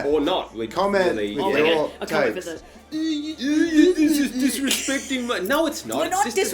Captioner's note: with goofy voices